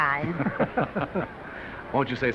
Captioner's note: men laugh